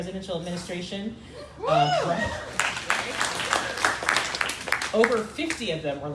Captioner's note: crowd applauding